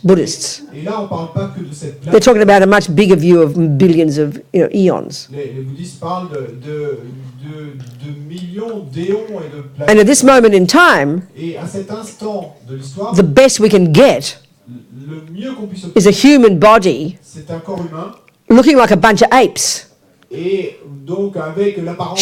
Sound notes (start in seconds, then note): 4.1 speaking in French; 12.1 speaking in French; 18.1 speaking in French